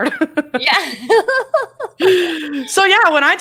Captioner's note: laughs